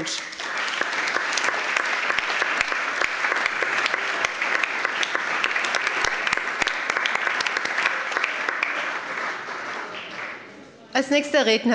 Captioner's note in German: Allgemeiner Beifall